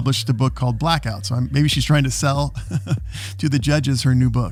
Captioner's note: laughs